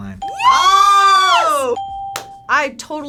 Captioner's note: ping; exclaims; ping; hands clap